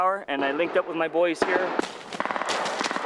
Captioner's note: gunfire